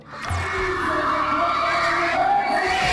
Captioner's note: crowd screams